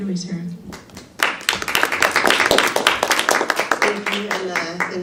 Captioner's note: audience applause